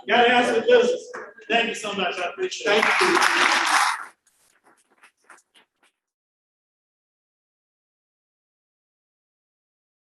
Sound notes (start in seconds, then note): 2.6 applause